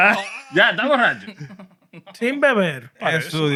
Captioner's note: speaking Spanish